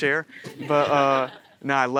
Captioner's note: audience laughing